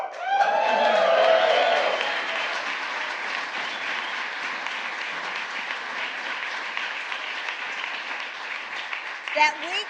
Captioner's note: applause